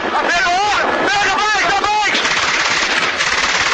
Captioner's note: shooting